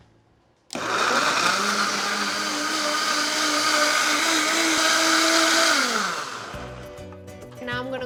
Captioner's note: blender whirs